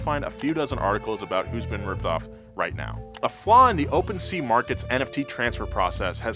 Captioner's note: none